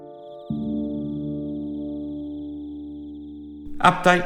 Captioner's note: frog croaks